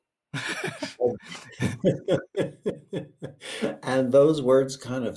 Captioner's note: both laughing